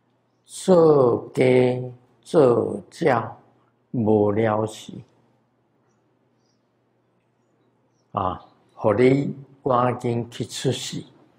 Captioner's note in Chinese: 台語